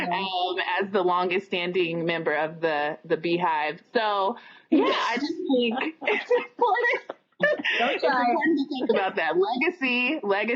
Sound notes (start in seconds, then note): 5.5 laughter